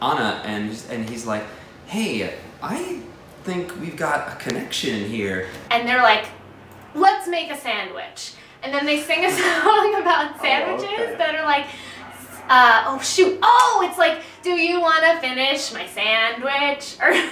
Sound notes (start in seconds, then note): 9.1 laughs; 17.1 both laugh